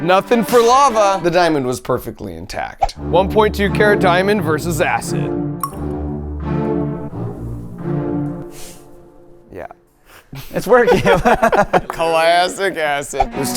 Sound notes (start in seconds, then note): 5.6 water plopping; 10.3 friends laughing